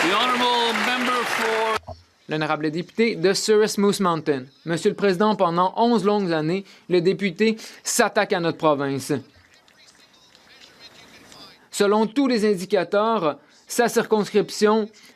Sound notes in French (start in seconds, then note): 5.2 voix de l'interprète